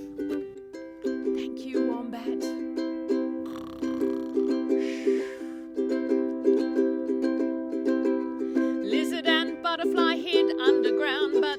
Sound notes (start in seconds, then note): 0.3 speaking quietly; 3.4 another snore; 7.9 sings